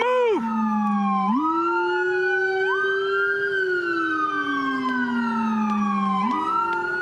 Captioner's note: sirens